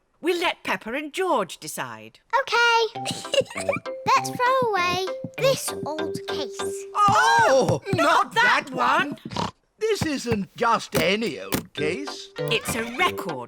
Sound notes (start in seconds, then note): 3.0 giggles; 9.2 snorts